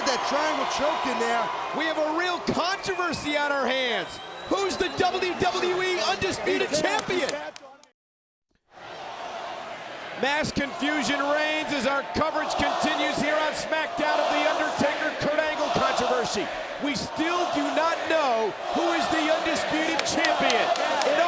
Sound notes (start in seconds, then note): 9.0 crowd chattering